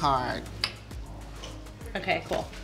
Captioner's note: snapping sound